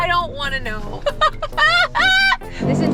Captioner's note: laughs nervously